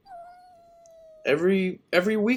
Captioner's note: cat meowing